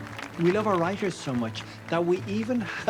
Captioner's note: applause; voice-over